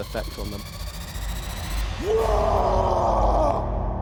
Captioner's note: roaring scream